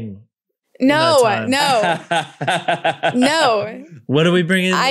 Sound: laughing

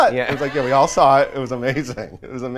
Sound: laughs

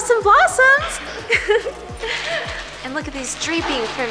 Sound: laughs

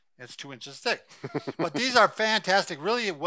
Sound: laughing

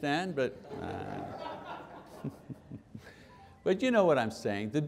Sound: laughing

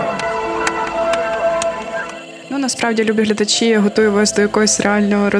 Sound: applause

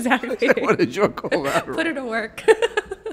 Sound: everyone laughing

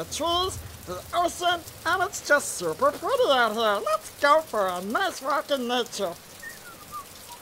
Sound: whistling

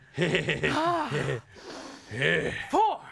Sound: chuckles; sighs

